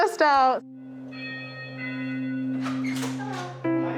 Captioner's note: doorbell